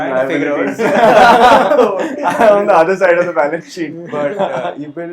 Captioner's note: laughs